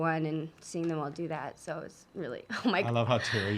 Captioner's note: voice breaks